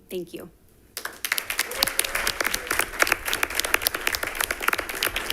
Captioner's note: attendees applauding